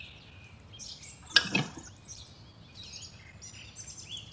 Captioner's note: footsteps crunching